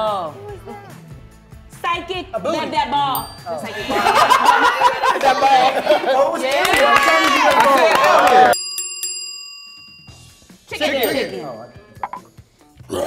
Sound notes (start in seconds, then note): 3.1 bell dings; 3.2 timer buzzes; 3.7 they laugh and clap; 9.0 bell dings